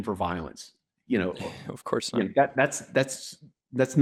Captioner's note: laughs